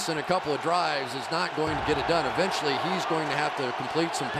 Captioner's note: crowd cheering